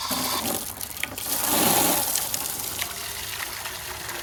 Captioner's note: water running